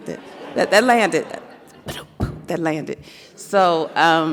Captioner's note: vocalizes